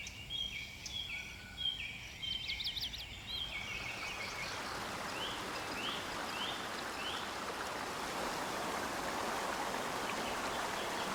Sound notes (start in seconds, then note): 4.5 water running